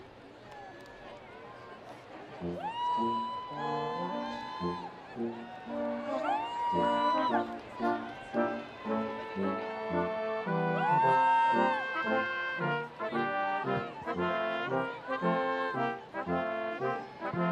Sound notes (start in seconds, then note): 2.5 students cheering and screaming; 6.9 orchestral music